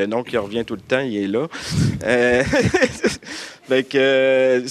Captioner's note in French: rires